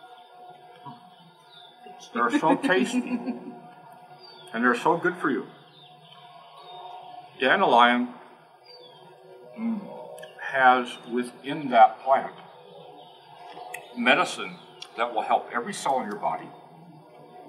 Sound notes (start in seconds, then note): 2.0 laugh; 3.2 munching